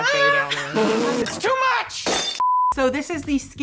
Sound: glass shattering

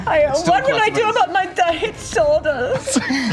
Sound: imitates German accent

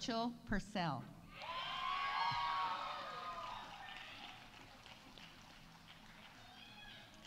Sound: audience cheering; audience applauding

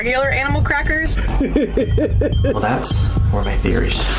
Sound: reviewer laughing

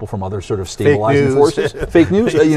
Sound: laughs

